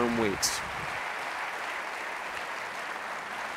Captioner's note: applause